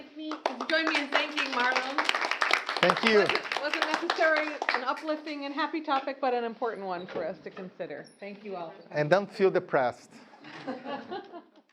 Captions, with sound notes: - Please join me in thanking Marlon. (students clapping) - Thank you. - Wasn't necessarily an uplifting and happy topic, but an important one for us to consider. Thank you, all. - And don't feel depressed. (chuckling)